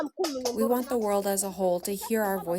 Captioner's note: through translator